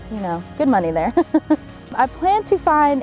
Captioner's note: laughing